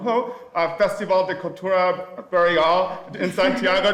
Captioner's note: speaking Spanish